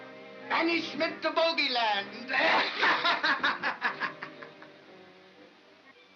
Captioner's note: cackles loudly